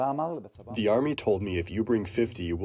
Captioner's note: through translator